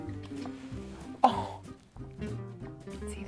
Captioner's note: gasps